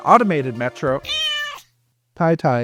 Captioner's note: Ti meows 🥺